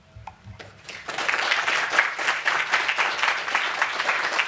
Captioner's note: applause